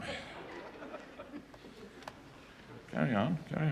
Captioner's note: laughter